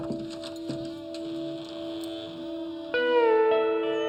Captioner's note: door creaking